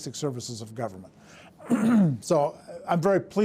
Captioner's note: clears throat